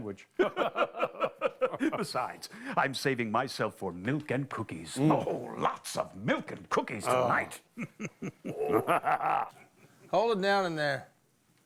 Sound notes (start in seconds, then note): 0.4 both laugh; 7.1 laughing